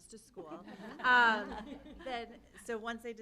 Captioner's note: laughter